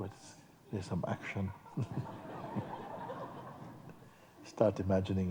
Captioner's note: laughter